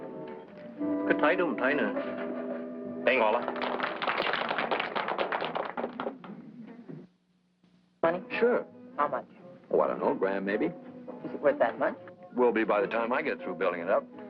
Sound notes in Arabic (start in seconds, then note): 0.2 يتحدث الصينية; 3.0 تصفيق